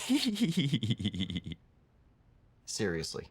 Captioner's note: giggles